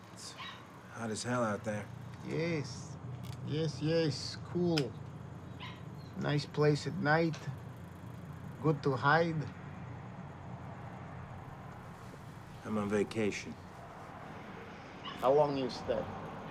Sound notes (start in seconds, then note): 5.5 dog yapping